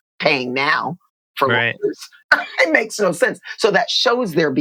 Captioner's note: laughter